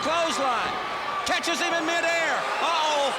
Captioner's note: crowd chatter